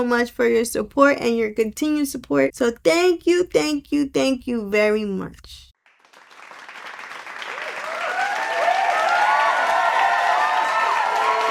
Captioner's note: cheering Sound Effect